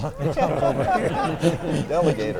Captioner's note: everyone laughs